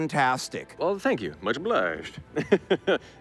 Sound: laughing

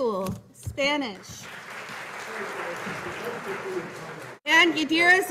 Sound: audience applauding

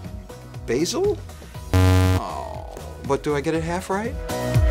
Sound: buzz

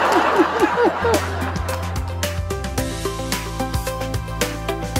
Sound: laughter

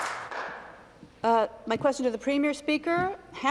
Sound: some Applause

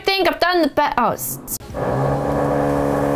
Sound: loud whirring

